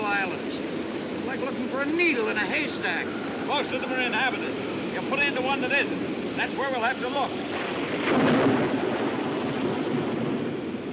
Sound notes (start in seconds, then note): 7.4 thunder roaring